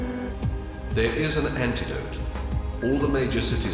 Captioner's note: electronic Voice